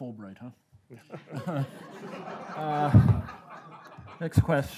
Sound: laughing

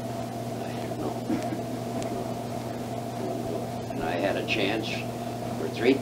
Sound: laughs

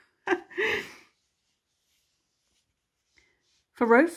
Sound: chuckles

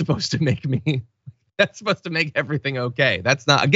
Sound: laugh

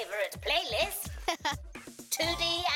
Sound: laughing

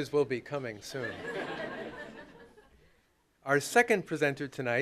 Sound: laughter

